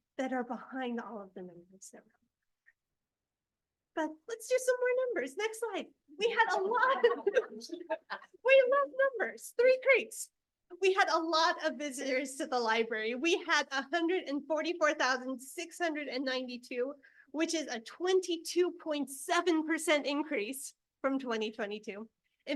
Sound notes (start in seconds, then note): 6.4 board members laugh